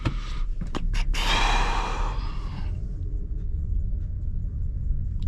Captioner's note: door opens